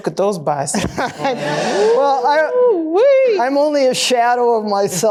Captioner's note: laughter